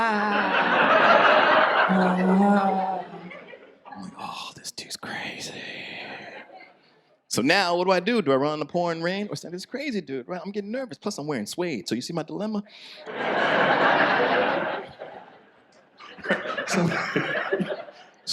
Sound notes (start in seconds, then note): 0.0 audience laughs; 13.0 audience laughs; 16.0 laughs